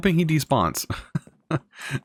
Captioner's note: laughs